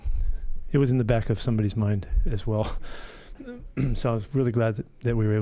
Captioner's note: laughing